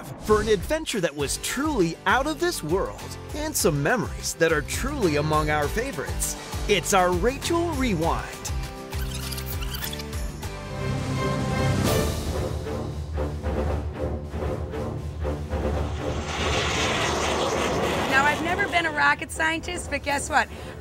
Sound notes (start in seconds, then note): 10.6 majestic music playing; 15.5 rocket engine whirring